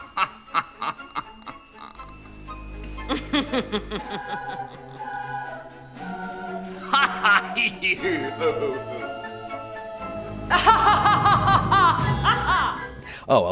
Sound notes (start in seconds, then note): 0.0 laughs; 0.3 gentle upbeat music; 2.8 laughs; 6.9 laughs